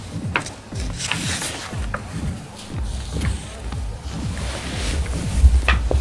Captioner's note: water splashing